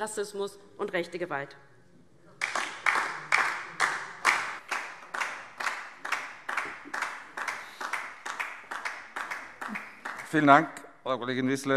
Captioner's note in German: Beifall DIE LINKE